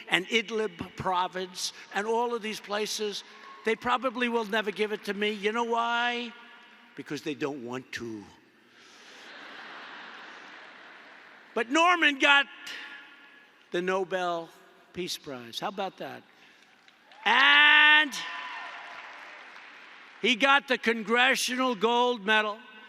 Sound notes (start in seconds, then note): 9.1 laughter; 16.2 applause